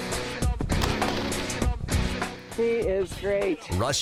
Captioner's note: gunshot